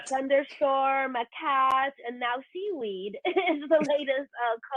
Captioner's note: chuckles